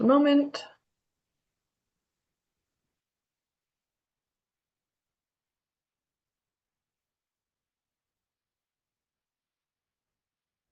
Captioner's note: pause